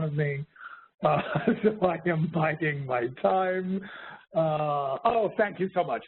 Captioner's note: laughs